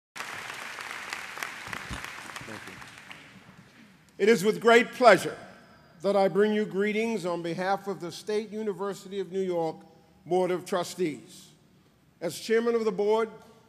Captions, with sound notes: [APPLAUSE] It is with great pleasure that I bring you greetings on behalf of the State University of New York Board of Trustees. As chairman of the board,